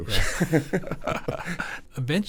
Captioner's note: both chuckling